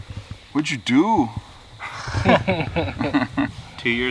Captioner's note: laughing